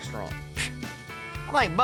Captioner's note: scoffs